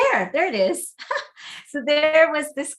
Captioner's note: laughs